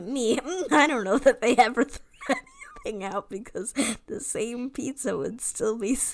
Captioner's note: laughs